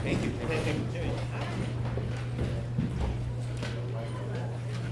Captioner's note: people chattering